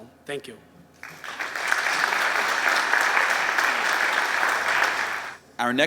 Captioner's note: applause